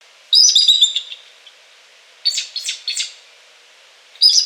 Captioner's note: bird chirping